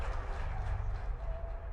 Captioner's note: crowd cheering